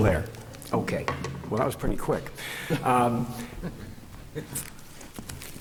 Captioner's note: laughter